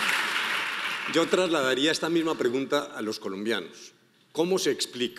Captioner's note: speaking in foreign language